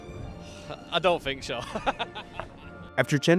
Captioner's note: laughs